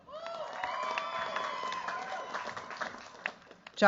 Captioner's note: cheers, applause